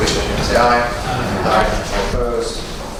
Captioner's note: A chorus of ayes